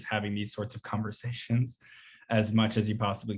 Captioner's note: chuckles